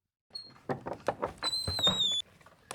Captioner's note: doors open